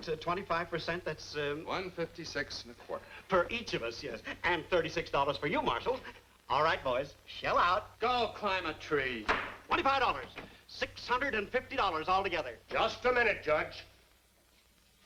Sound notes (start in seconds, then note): none